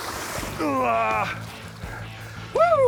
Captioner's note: grunts